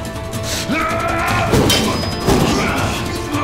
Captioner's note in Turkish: Dövüş sesleri